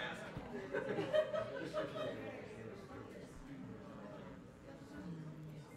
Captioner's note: laughing; people chattering faintly